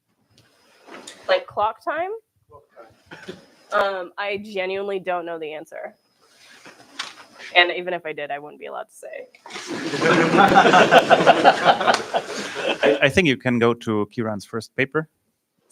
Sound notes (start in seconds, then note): 9.5 laughter